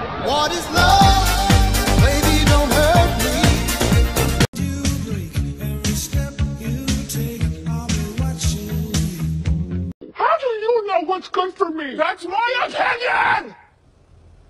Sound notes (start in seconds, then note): 11.9 voice increasing in volume